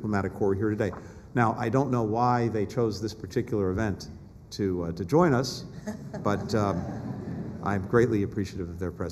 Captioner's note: laughter